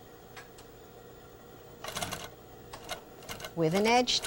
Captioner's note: sewing machine